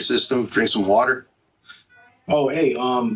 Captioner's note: heart monitor